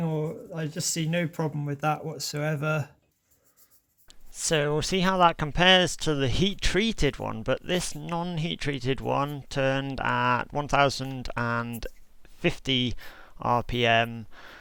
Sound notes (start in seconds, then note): none